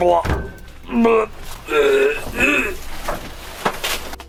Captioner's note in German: Würggeräusche